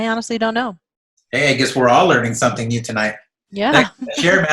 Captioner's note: laughs